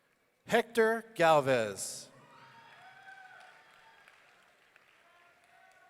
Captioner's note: audience cheering